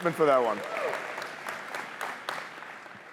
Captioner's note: cheers, applause